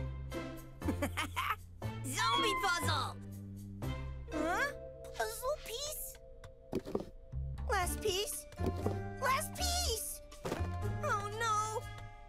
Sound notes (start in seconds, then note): 0.1 laughing; 2.3 meowing